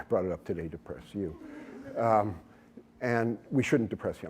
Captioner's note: laughter